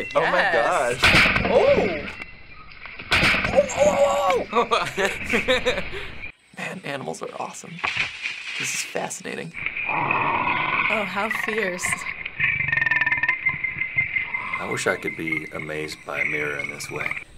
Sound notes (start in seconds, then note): 1.2 mirror bangs; 3.6 both chuckling; 9.9 cheetah snarling; 12.0 cheetah growling